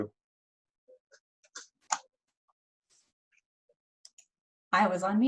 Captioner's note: no audio